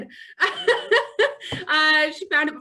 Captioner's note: laughing